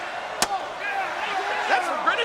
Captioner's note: sign thuds